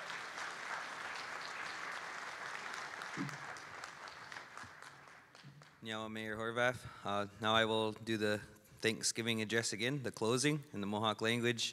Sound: applause

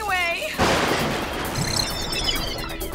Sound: beeping

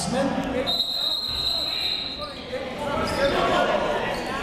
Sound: whistle

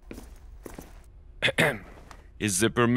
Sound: clears throat

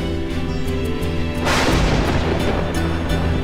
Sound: thunder crackling

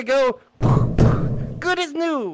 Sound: thud

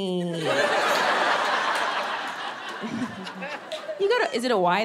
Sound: audience laughing

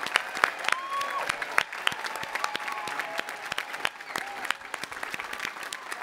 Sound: audience applauding and cheering

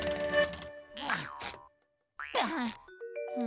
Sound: grunting

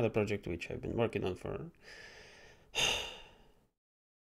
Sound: sigh

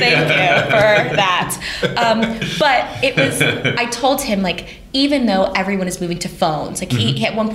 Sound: laughter

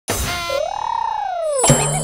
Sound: trills; boing!

